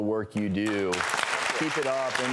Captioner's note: audience applause